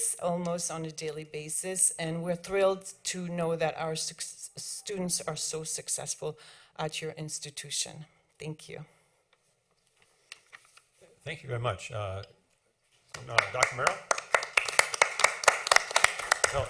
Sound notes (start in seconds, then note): 13.1 applause